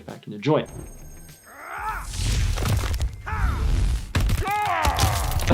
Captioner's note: yelling